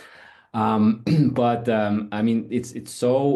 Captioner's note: cough